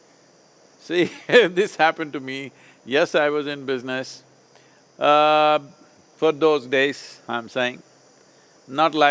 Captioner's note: laughs